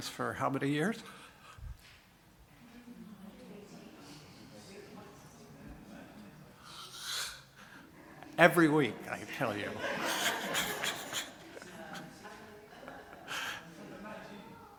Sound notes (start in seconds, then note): 4.6 mutterings from congregation